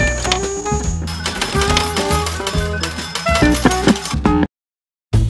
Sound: bright music; coins clinking

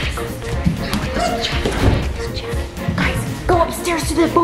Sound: footsteps running

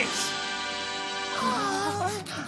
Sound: gasping

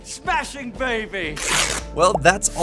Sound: ripping

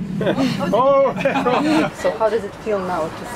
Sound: laughs

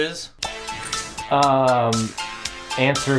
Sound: ringtone

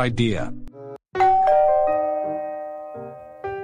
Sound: doorbell rings

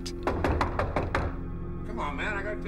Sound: knocking

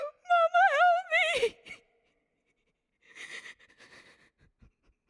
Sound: sniffling

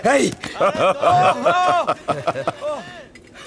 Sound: laughs

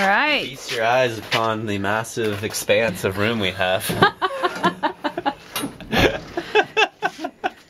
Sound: laughing

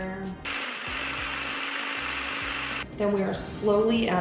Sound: food processor buzzing

